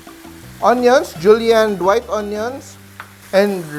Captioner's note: sizzle